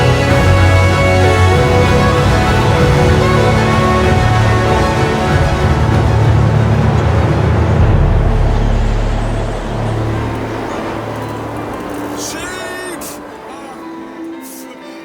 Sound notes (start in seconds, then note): 7.6 wind noise